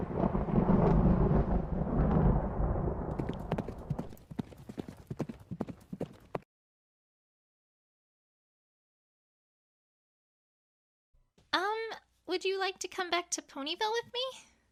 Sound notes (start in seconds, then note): 3.1 little Hooves Galloping franticly